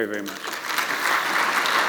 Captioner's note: applause